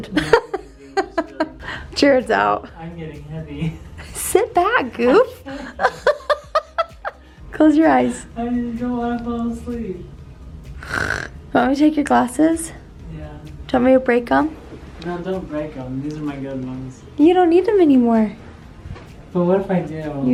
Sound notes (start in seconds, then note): 0.0 laughs; 5.4 laughs; 10.8 snores